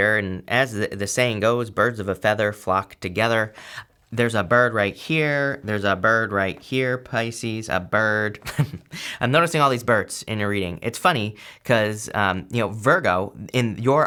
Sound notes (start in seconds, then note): 8.4 chuckles